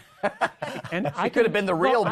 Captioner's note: laughter